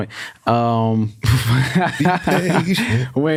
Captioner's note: laughs